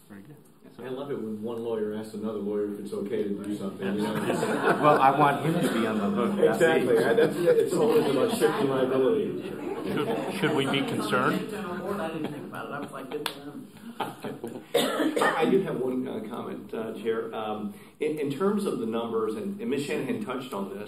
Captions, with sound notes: >> I LOVE IT WHEN ONE LAWYER ASKS ANOTHER LAWYER IF IT'S OK TO DO SOMETHING. [ LAUGHTER ] >> SHOULD WE BE CONCERNED? >> I HAD ONE COMMENT, CHAIR. IN TERMS OF THE NUMBERS AND MS. SHANAHAN TOUCHED ON THIS.